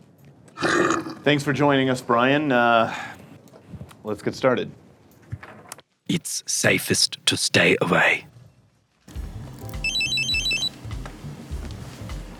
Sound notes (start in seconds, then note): 0.2 Growls in Bear-lish; 9.8 phone rings